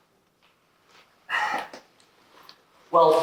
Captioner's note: sigh